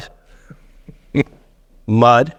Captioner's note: chuckling